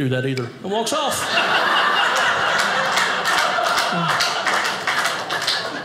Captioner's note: audience laughing